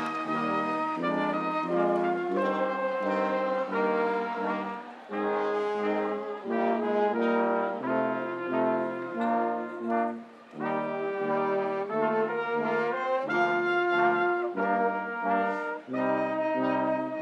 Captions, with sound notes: Meet your graduates in the lobby or plaza area. Have a wonderful holiday season. Go Eagles! [Cheers and applause] [ Recessional music ]